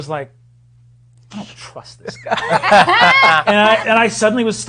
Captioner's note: others laughing